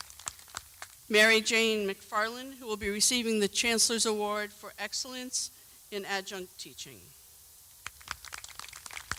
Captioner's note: applause